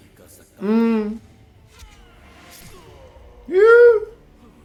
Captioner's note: Bhishm groans; Shikhandi yells ferociously; Duryodhan gasps